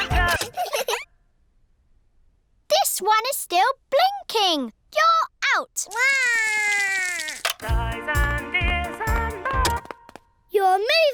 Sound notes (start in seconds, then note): 0.2 music stops; 5.9 cries; 10.0 music stops